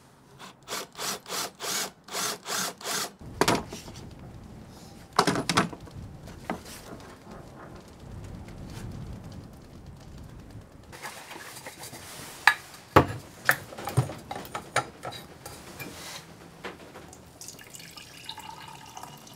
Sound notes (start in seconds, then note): 5.1 tools clanking; 10.0 liquid shaking; 17.1 liquid pouring